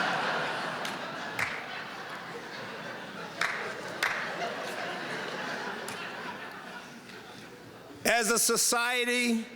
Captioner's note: laughter